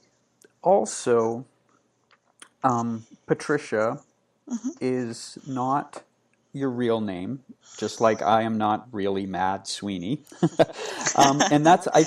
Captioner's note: laughing